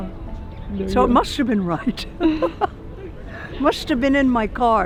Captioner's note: chuckles